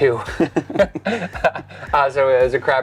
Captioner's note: everyone laughs